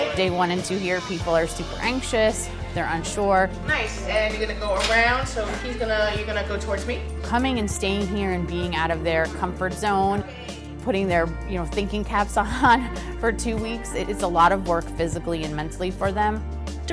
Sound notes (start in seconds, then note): 12.6 laughs